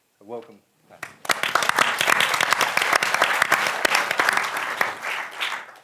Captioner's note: applause